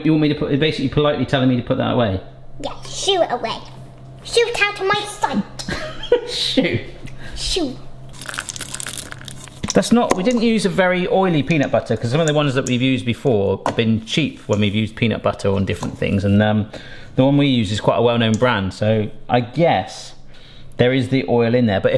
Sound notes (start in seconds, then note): 5.6 laughs; 8.1 chips clattering